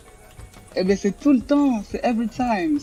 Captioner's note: answers in French